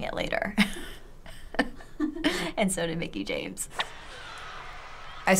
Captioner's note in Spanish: Risas